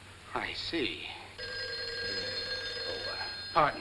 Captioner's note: phone rings